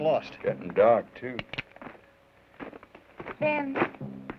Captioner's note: gun cocks